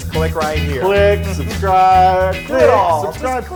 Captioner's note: laugh